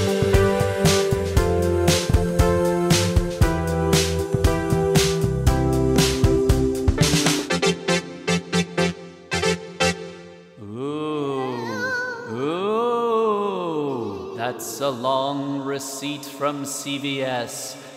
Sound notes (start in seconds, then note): 12.6 ghostly spooky noises